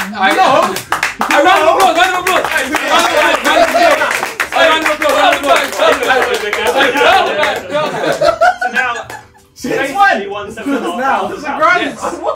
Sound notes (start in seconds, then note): 0.0 all clapping and cheering; 4.4 all chattering and cheering